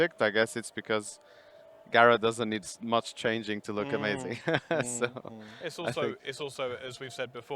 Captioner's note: laughing